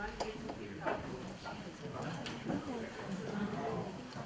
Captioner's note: voiceover; voice moves away from mic